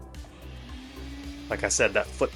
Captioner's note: motor whirring